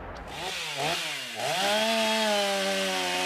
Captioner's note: chainsaw noises